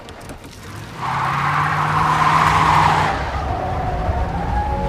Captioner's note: tires screeching